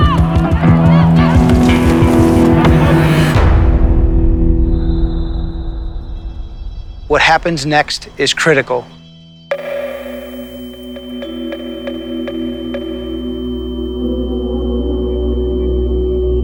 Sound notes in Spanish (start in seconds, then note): 0.0 público animando desde las gradas; 4.6 suena un silbato; 9.4 el sonido del timbre ahoga otros sonidos